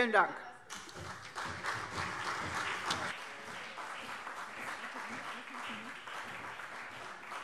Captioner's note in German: Beifall CDU und BÜNDNIS 90/DIE GRÜNEN